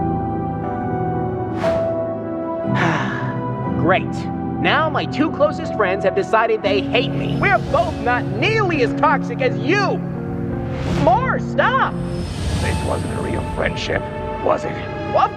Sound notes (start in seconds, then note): 2.7 sighhh